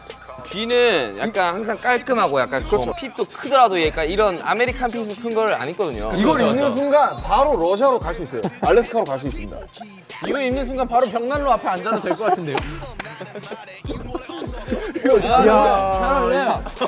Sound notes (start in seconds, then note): 8.1 empty laugh